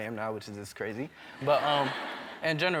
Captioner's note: laughter